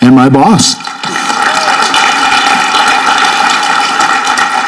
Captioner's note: audience clapping